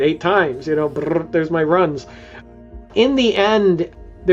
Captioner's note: rolls tongue